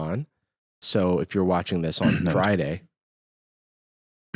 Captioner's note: clears throat